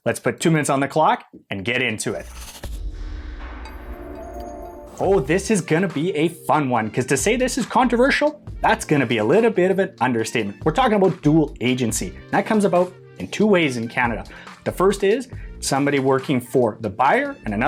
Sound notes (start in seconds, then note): 2.1 logo whooshing